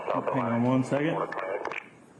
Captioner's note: radio chatter